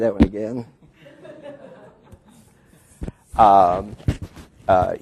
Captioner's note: group laughing